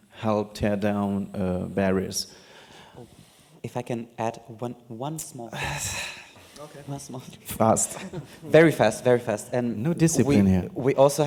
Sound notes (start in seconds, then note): 6.4 sighs